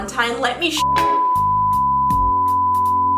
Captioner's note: beep